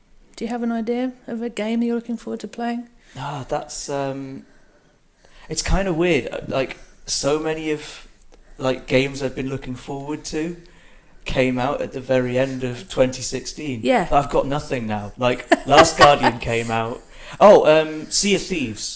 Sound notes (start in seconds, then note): 15.4 laughs